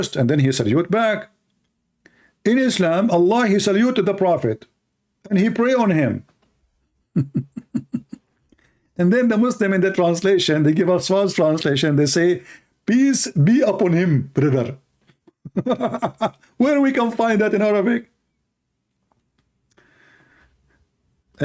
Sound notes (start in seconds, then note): 7.1 Ketawa